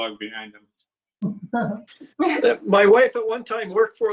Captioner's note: male chuckles